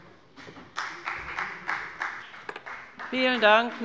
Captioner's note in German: Beifall bei der FDP